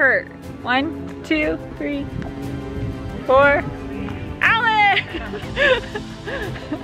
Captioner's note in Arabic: يضحك